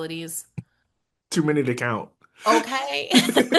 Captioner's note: giggle